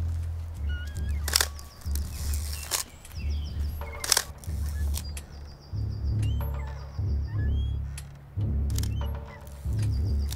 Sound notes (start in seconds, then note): 0.0 swing squeaking; 0.7 camera clicking